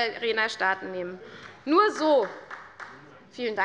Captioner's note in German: Beifall des Abg